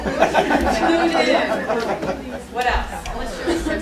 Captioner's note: laughter